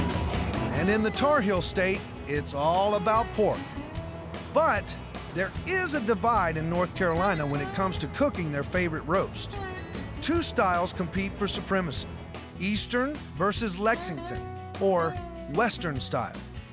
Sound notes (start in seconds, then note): none